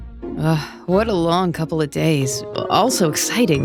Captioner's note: sighs